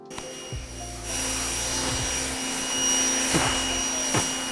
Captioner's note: washer whirring